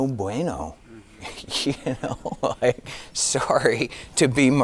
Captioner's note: giggling